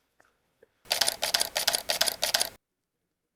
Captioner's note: camera clicking